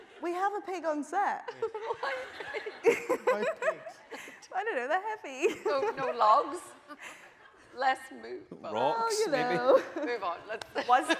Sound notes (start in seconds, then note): 1.5 laughing; 8.1 voice muffled